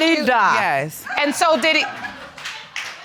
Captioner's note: audience laughing